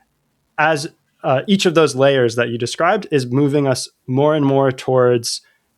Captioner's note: uh